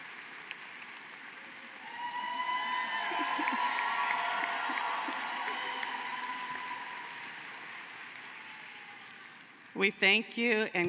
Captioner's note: cheering and applause